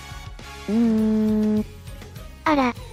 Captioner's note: sob sob sob